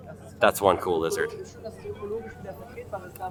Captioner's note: attendees chattering